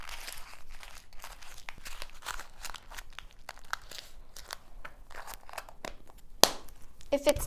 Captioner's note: crumpling paper